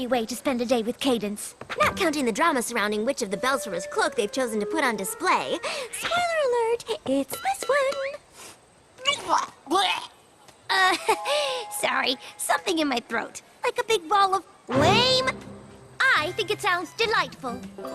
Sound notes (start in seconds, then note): 9.2 gagging